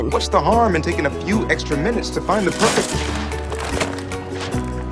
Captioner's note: items creaks